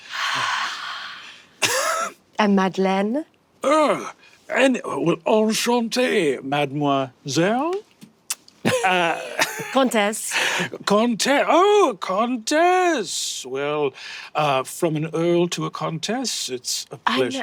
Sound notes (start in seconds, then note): 1.7 Brennan laughs; 8.2 kisses